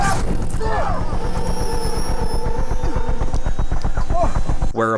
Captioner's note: helicopter whirring